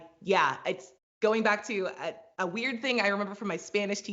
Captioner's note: none